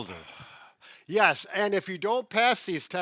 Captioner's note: sighing